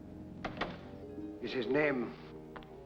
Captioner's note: ominous music; door closes